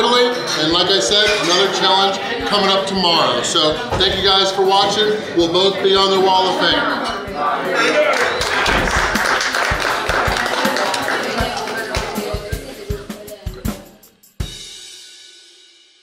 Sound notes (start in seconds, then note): 8.1 clapping; 9.1 upbeat music